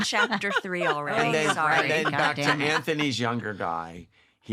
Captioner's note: laughter